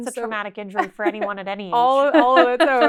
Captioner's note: laughs